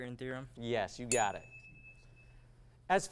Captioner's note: ding